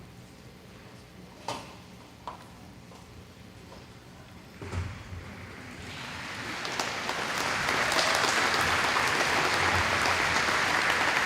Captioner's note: applause